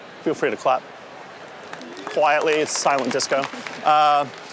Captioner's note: applause